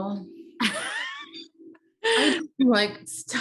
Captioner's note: laughing